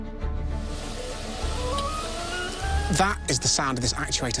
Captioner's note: whirring, musical tones playing